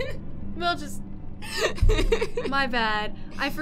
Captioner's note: laughter